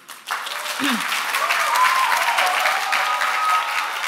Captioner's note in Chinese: 掌聲喝采